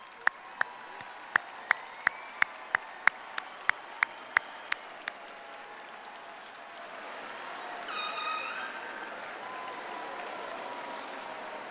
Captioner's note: applause